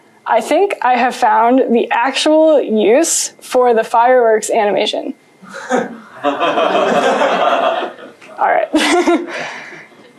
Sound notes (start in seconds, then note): 5.4 laughing